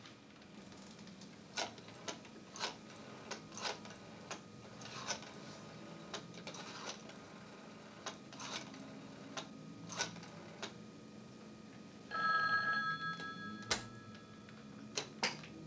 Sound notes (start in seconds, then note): 12.0 phone rings nearby